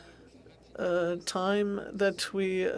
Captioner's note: speaking French